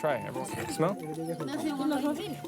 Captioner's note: speaking in native language